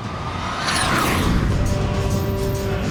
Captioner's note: jet engine roars; dramatic music